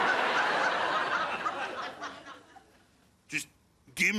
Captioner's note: laughs